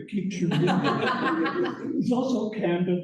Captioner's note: laughter